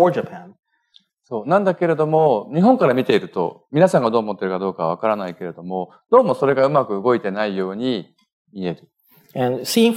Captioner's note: speaking japanese